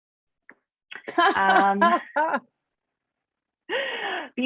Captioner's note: laughs